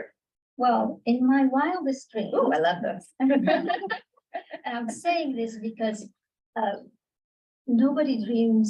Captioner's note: laughter